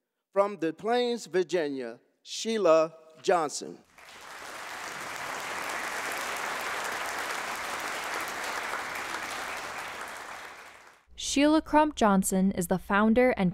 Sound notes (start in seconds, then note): 3.9 audience applauding